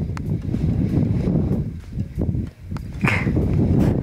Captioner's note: wind